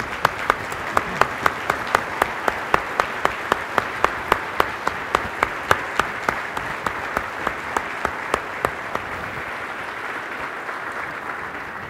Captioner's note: applause